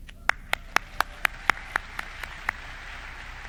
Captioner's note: clapping